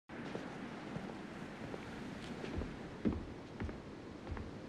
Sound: footsteps approaching

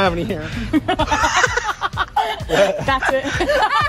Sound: everyone laughs

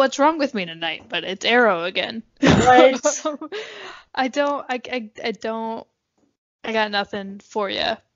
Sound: laughs

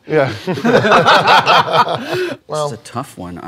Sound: laughter

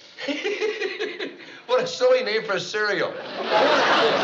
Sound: laughs

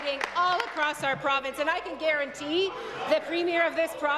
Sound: applause

